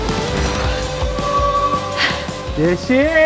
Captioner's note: breaks Squeak